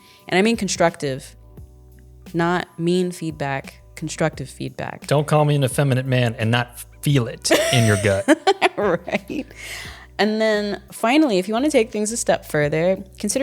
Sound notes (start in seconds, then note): 7.5 laughing